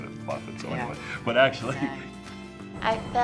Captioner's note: laughs